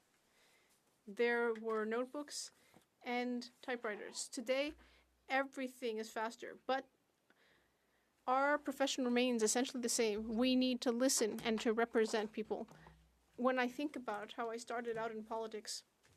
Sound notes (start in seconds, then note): none